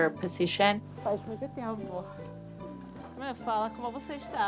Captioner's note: in Portuguese